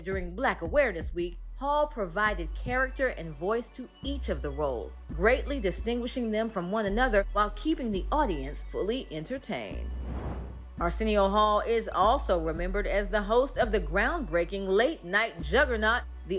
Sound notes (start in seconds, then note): 9.9 air whooshes; 10.2 upbeat music continues